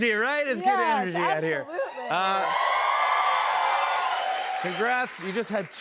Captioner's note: audience cheers